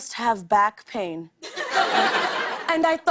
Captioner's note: laughter